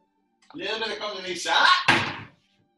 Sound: slam

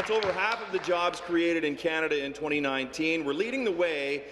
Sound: applause

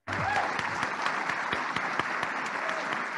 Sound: applauding

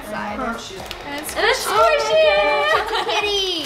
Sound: laughs

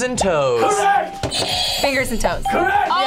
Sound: buzzer rings

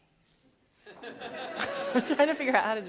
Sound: laughter

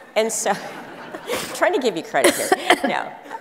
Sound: audience laughs

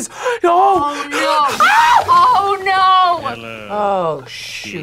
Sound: screams

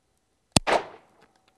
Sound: bang

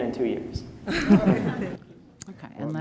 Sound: laughter

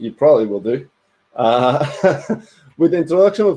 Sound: giggles

